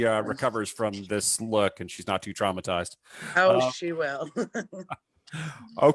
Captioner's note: chuckles